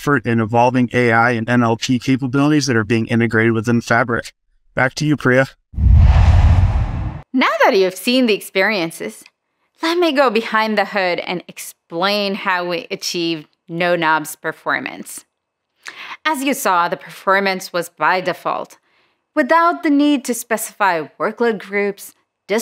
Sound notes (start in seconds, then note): 5.7 logo swooshes